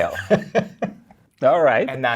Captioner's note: guy laughs